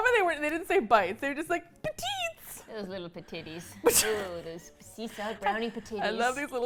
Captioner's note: laughs